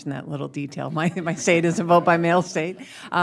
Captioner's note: laughter